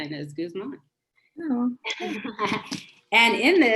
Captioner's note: laughs